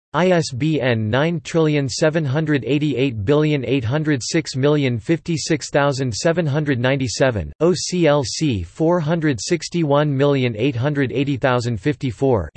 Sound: in Italian

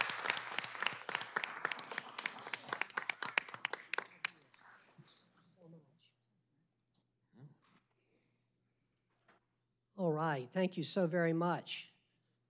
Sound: applause

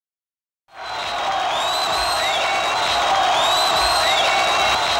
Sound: crowd cheering

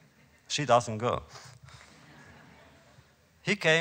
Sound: laughter

